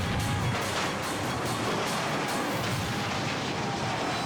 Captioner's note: dramatic music continues; car crashing